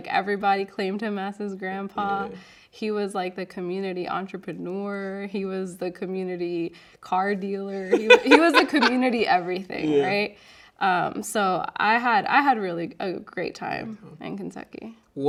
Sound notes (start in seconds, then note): 7.7 laughing